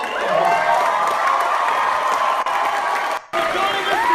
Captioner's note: applause